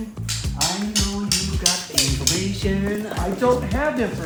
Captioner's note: sticks clacking